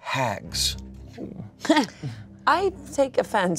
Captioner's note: laughs